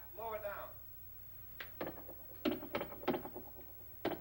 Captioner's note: knocking